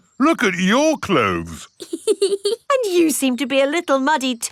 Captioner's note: laughs